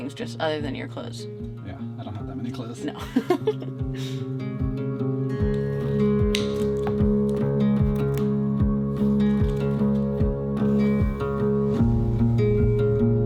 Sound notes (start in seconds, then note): 4.0 laughing; 4.9 acoustic guitar music